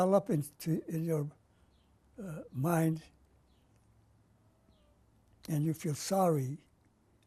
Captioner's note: pauses for 3 seconds